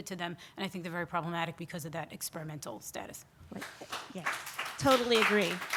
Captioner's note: scattered applause